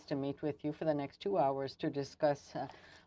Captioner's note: speaking french